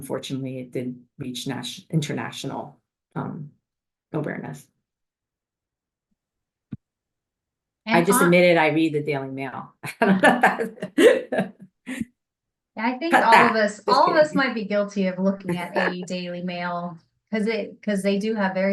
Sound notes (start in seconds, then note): 10.0 laughs